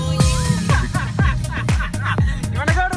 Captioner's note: laughing